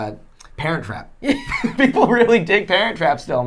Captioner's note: laughing